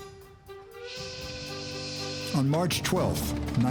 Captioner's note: train whistle blows